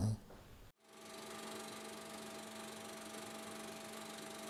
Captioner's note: film reel spins